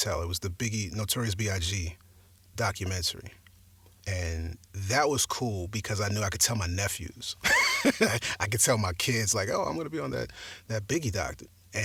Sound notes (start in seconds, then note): 7.4 laughs